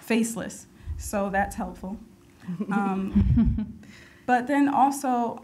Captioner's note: group chuckles